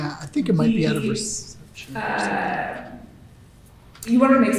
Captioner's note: softly talks off mic